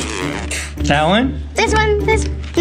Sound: blows raspberry

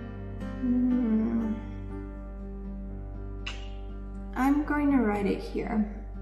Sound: clicks tongue

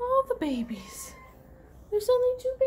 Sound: mew

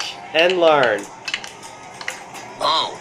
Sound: billiards playing

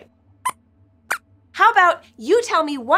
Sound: squeaks squeaks

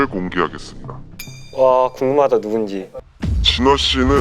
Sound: emotionless

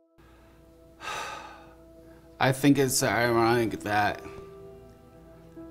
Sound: sighs

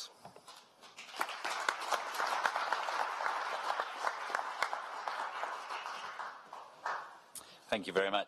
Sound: applause

